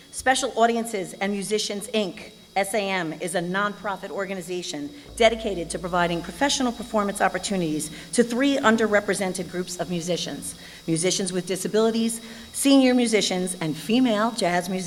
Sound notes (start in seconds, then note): none